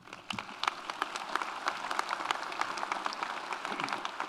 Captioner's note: audience applauds